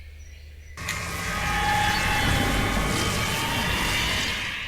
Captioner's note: wind whirring